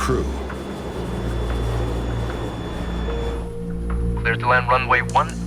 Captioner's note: engine whines